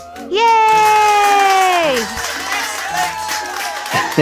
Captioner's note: wild applause